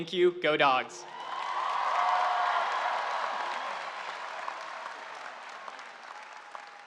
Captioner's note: audience cheering and applauding